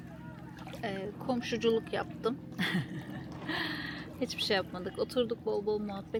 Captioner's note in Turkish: kahkaha